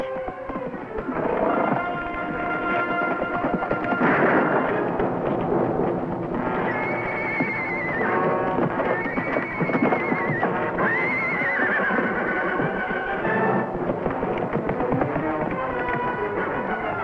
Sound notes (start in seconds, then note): 1.1 dramatic music; 3.2 gun firing; 6.4 horse whinnying